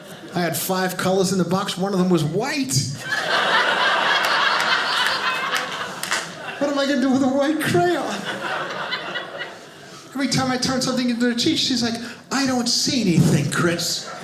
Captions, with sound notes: I had five colors in the box. One of 'em was white. (audience laughing) What am I going to do with a white crayon? Every time I turn something into the teacher. She's like, "I don't see anything, Chris."